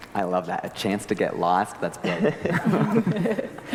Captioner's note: group laughter; laugh